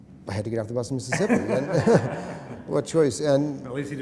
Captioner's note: laughter